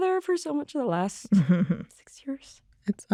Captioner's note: chuckles